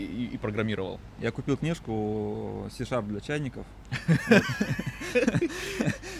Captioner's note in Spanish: ambos se ríen